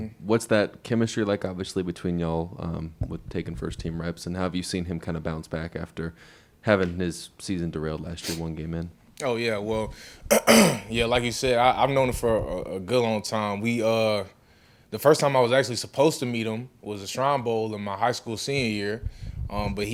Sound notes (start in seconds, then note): 10.3 clears throat